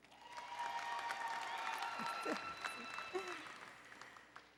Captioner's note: applause and Cheering